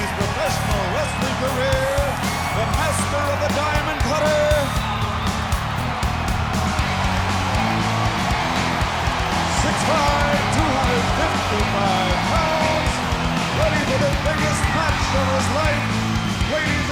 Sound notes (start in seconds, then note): 4.8 audience cheering